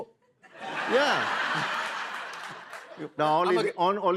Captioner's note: laughter